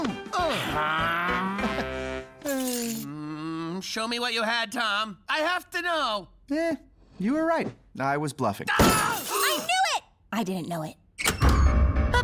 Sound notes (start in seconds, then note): 0.0 light music; 8.7 screams